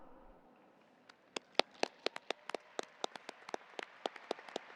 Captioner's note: audience applauding